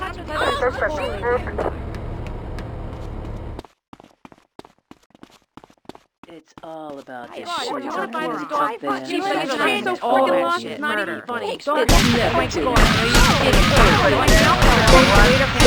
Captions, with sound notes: [Tires screeching] It's all about this shit. [Yelling] I fucking hate this shit.